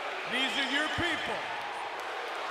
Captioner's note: crowd chatter